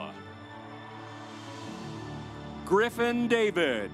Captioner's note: audience applauds